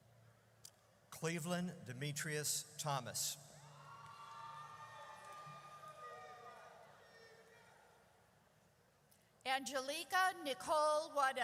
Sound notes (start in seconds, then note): 3.6 audience cheers